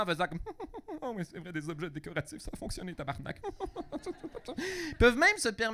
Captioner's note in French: rire